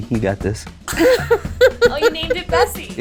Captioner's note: laughing